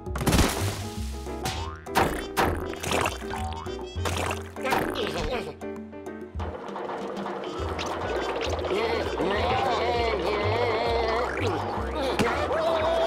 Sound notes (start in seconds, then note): 0.2 crash; 6.4 rollers clanking; 8.6 murmuring